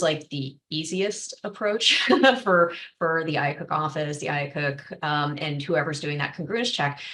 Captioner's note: laughter